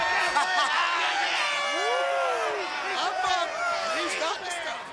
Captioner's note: crowd chatter